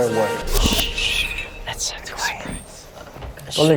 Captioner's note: shhh!